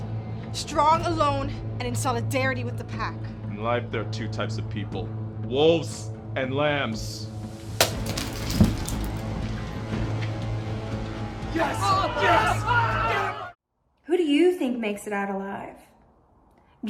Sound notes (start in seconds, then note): 7.8 vase smashes; 7.8 Ralph thuds